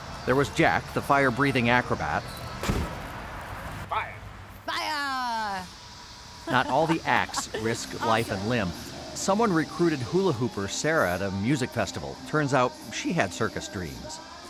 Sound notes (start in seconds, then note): 2.2 woosh!; 4.8 laughter